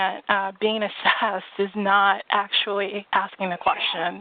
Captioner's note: chuckles